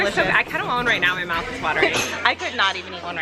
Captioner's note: laughing